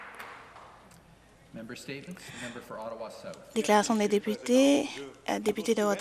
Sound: applause

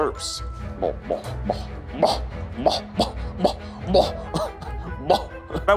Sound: imitating popping noises

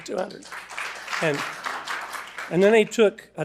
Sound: attendees applauding

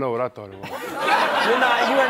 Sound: laughter

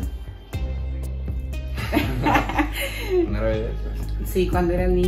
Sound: laughter

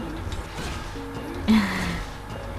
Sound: chuckles

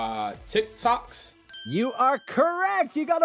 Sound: bell dings

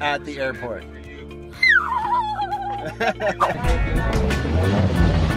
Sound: excited screaming

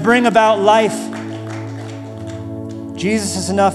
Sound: applause

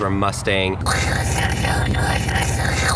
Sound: imitating golf cart sounds

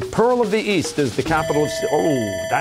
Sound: bell ringing

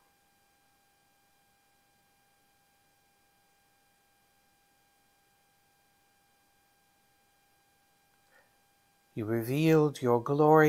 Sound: intentional silence

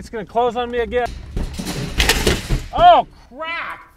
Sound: gate crashing

